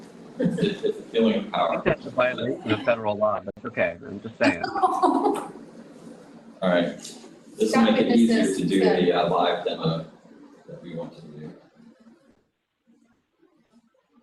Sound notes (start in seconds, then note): 4.3 laughter